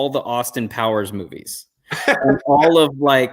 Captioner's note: chuckle